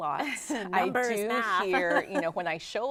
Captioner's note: laughing